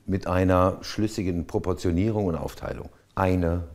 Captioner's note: none